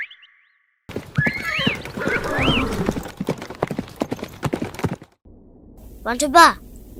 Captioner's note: horses galloping